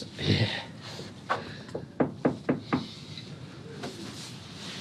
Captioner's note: knocking on door